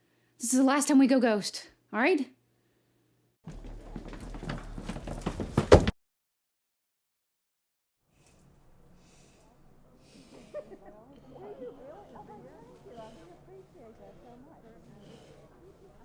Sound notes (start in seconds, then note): 10.0 people chattering and laughing